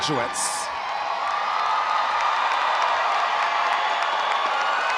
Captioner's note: audience cheering